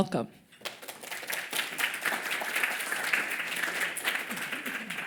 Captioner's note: applause